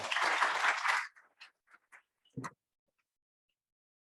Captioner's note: audience applauding